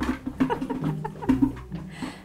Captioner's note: laughing